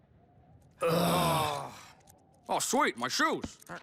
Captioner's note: all groan